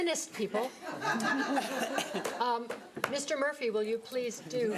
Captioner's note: audience laughing